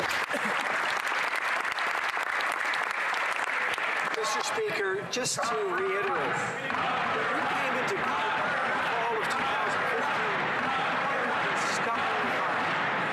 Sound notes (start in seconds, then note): 2.1 applause; 10.5 chanting